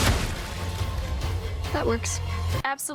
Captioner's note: pumpkins burst; gunfire